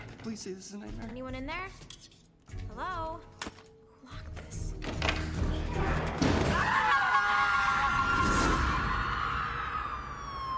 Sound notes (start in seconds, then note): 6.5 both screaming; 9.3 SIREN WAlLlNG